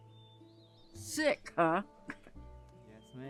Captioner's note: scoffs